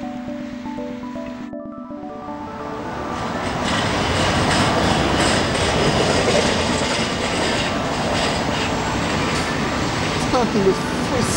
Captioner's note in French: Fort bruit de Tram qui grince